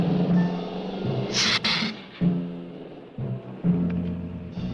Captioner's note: lizard hissing